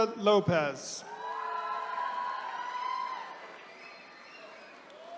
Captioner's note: attendees cheering